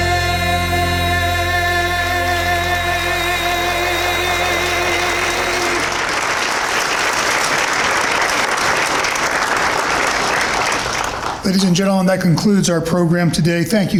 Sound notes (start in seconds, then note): 2.6 applause